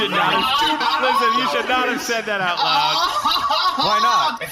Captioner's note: B-69-420 begins laughing